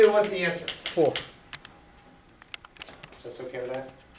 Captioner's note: voiceover